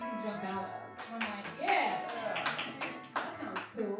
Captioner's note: claps